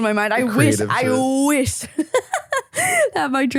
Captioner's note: laughing